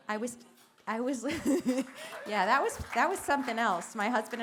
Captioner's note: laughter & applause